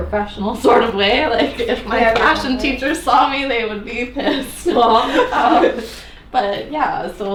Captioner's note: laughs